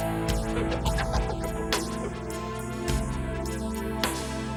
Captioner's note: suspenseful music; laughing